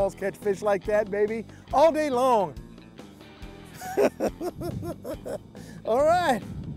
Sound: laughing

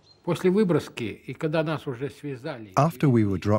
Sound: speaking Russian

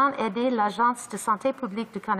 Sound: speaking in French

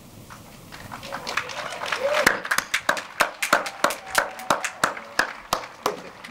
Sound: audience applauding and cheering

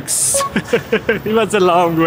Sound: chuckles

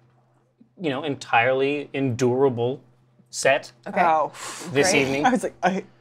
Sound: whew

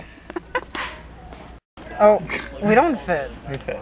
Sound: laughs

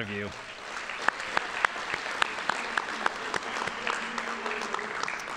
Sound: audience applauding

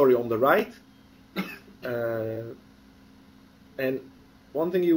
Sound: pause

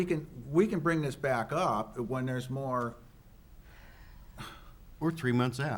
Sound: sighs

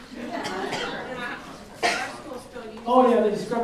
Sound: laughing

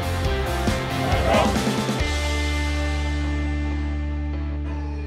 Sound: team chants; hopeful music

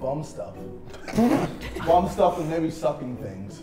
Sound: Sidemen laughing

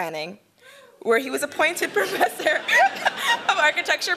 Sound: laughing

